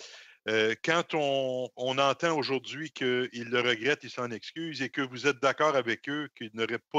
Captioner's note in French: voix de l'interprète